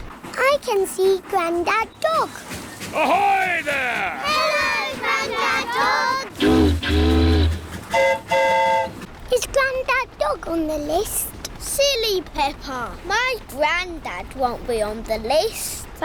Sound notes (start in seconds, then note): 7.8 train horn toots; 7.8 boat horn honks